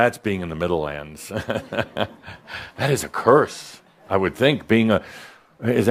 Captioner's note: Adamus chuckles